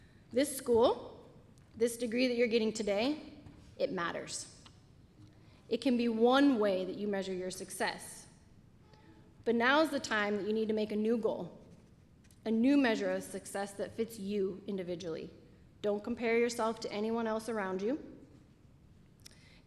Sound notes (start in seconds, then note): none